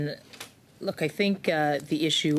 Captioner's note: speaking French